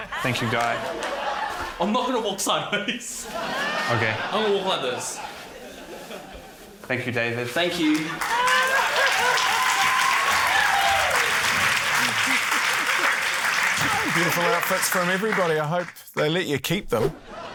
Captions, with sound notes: Thank you, Guy. - I'm not going to walk sideways. (CHUCKLES) - OK. - I'm going to walk like this. - Thank you, David. - Thank you. (CHEERING, APPLAUSE) - Beautiful outfits from everybody. I hope they let you keep them.